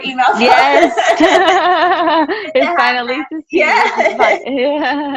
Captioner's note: laughs